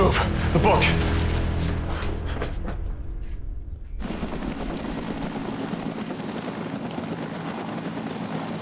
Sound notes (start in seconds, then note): 3.9 helicopter propellers whirring